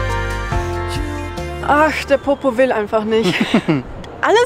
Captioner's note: laughs